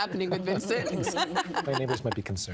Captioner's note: laughing